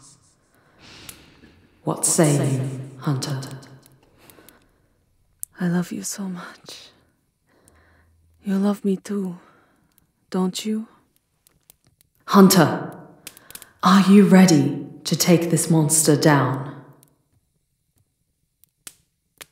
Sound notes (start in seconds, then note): 5.3 Stefania murmurs against you, in the most tender voice you've heard